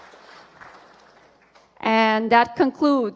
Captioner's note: applause